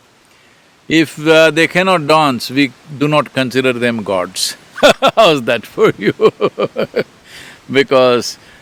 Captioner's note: laughs